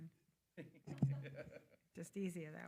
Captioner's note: attendees laughing